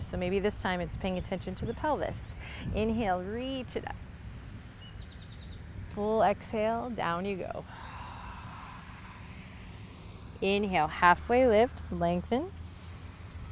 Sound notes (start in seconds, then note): 4.5 inhales deeply; 7.6 exhales